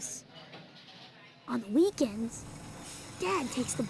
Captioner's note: bus rumbling